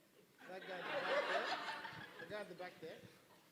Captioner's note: laughing